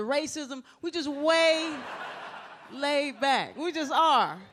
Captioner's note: audience laughs